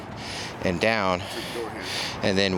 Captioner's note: breathing heavily